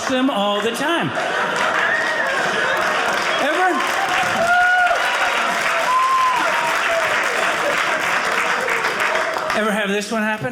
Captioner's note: audience cheering